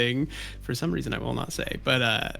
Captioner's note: hushed